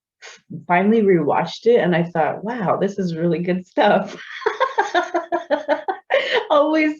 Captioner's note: laughs